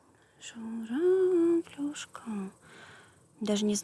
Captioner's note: sing-songy